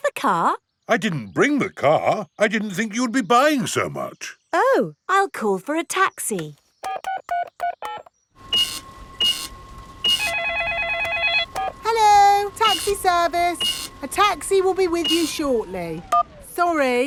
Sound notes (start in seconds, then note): 6.8 dialing; 8.4 cash register beeping; 10.0 cellphone ringing; 10.2 beeps